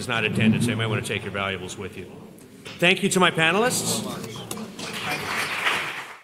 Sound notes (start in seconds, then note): 4.7 applause